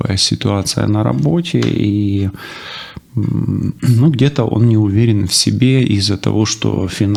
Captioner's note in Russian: тяжело вздыхает; вздыхает